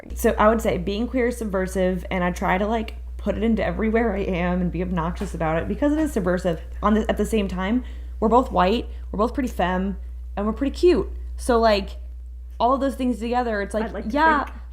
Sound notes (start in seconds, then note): none